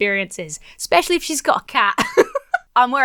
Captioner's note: laughs